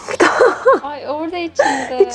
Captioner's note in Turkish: gülüşmeler